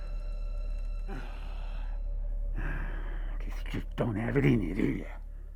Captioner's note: sighs